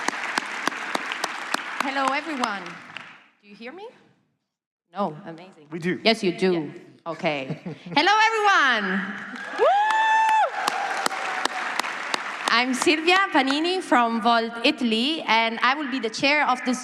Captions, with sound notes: >> Hello everyone. Can you hear me? Yes you do. OK. Hello everyone! (Applause) >> I'm Sylvia Penny from Volt Italy and I will be the chair of this